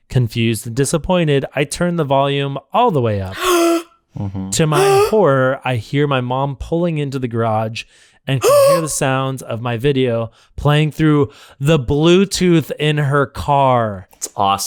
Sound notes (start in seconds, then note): 3.3 gasps